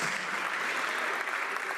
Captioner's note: some Applause